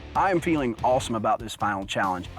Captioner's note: voice-over